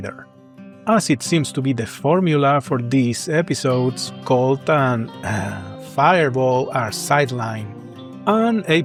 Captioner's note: sigh